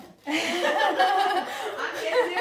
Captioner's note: laughing